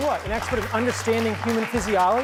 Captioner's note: clapping